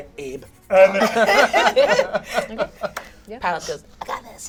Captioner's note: all laugh